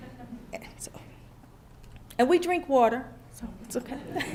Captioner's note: laughter